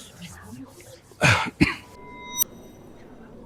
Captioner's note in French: Héhéhé